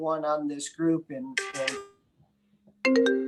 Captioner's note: phone chimes; phone ringing